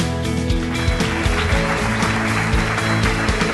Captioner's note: applause